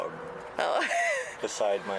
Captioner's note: laughs